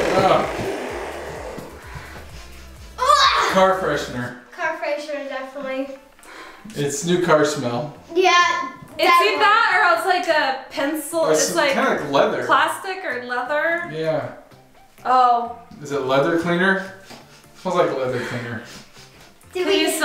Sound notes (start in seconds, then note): 0.0 fart noises; 3.2 gagging